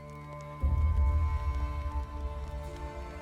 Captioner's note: horse hooves